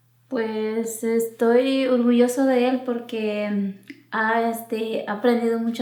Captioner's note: speaking in foreign language